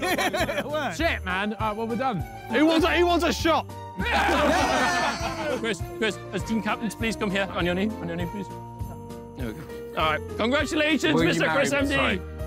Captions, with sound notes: [laughs] It worked. - sh*t, man. All right, what do we do? - Who wants a shot? [all cheering] - Chris, Chris, as team captains, please come here. On your knee, on your knee, please. All right, congratulations Mr. ChrisMD.